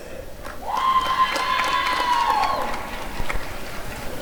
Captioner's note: applause and cheering